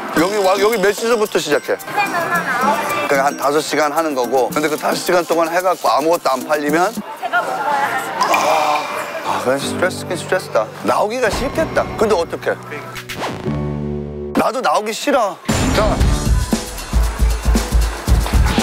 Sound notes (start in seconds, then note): 8.3 sigh